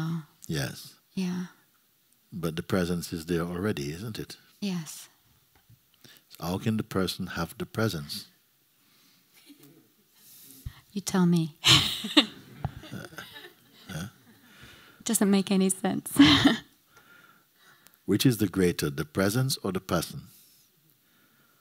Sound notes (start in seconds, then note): 11.6 laughs